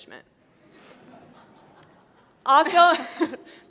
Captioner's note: laughter